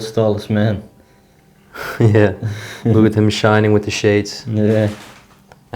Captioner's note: laughs